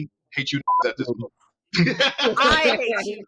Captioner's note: laughing